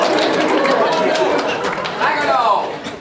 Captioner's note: applause